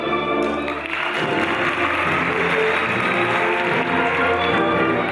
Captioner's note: audience applauding